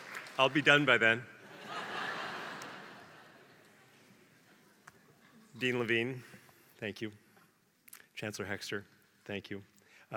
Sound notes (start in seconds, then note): 2.1 laugh